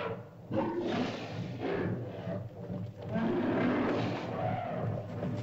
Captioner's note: dramatic music; mastodon bellows; mastodon grunts & growls; hooves softly pounding